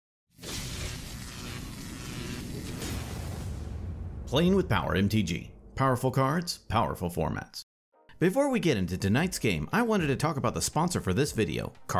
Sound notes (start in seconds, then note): 0.4 electricity buzzing